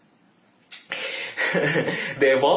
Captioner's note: laughs